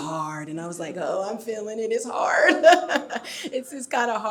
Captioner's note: laughs